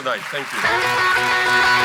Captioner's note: audience applauds; guitar riff